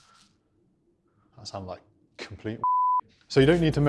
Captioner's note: beep